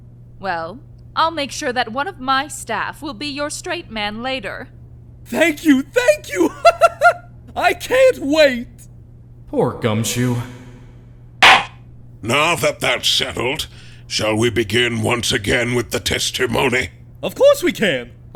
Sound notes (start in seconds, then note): 5.8 laughs; 11.4 gavel slams!